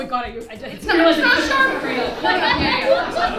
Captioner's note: audience laughing